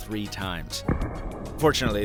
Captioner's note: buds clattering